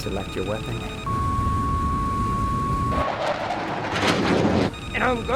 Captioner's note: radio beeps; aircraft whirring